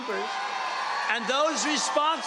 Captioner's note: cheering